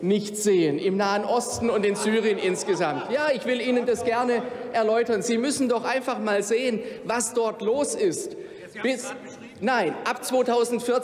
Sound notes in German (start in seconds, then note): 1.8 Lachen bei Abgeordneten der AfD und der LINKEN